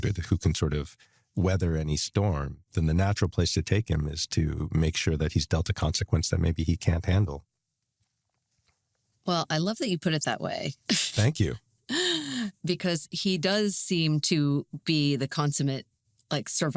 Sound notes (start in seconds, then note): 10.9 chuckles